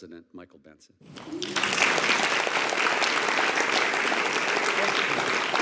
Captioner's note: attendees applauding